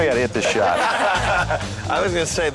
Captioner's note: lalaugughthterer